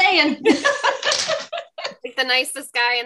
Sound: laughs

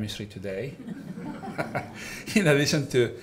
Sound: all laughing

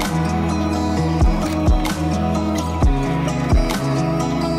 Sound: shutter closes; relaxed hip hop music continues

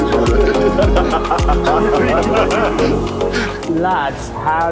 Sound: laughing

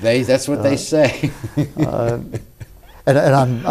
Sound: laughs

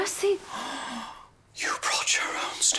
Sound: gasp; whispers

